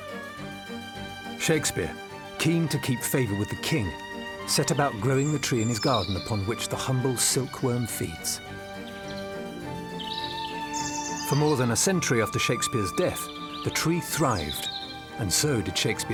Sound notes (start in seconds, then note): 7.5 birds chirping